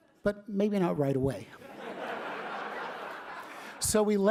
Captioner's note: laughter